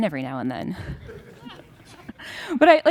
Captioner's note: laughter